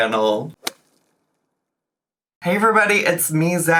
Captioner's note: logo thuds